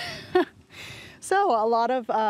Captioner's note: laughs